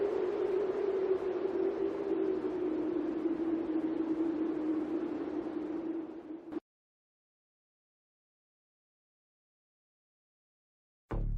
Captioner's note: wind blowing noise